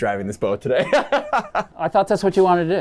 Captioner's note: Joey laughing